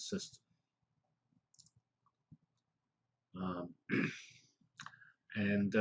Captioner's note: pause